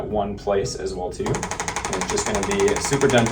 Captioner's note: ArthroStim tapping